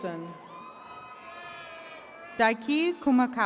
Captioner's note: attendees cheering